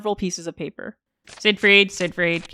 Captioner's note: sound of rustling paper